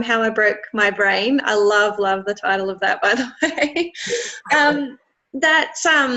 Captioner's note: laughs